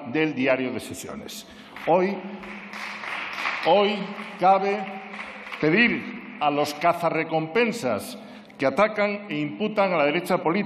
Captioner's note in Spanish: Aplausos